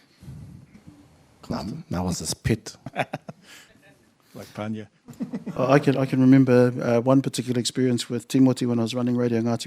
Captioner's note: laughter